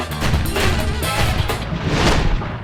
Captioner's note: shotgun blasts